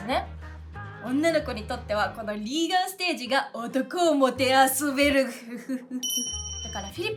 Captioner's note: evil laugh